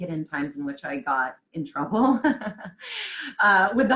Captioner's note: laughs